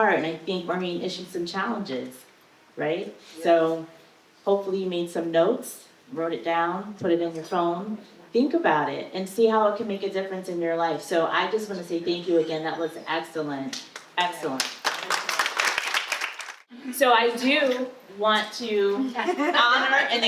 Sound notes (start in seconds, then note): 14.6 audience applause